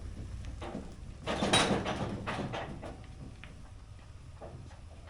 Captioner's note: metal clanks